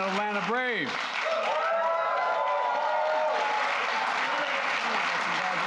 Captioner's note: applause